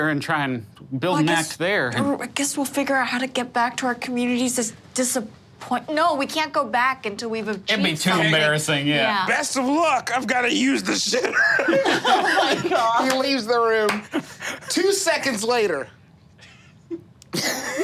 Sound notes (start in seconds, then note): 10.9 group laughing; 14.0 laughs